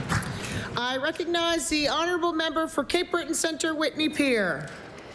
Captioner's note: applause